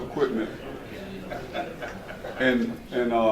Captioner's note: laughter